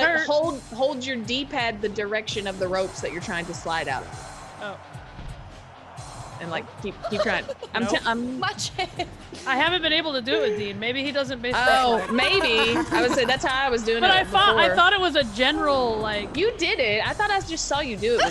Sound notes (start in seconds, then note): 6.7 laugh